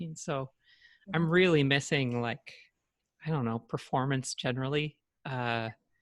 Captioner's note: none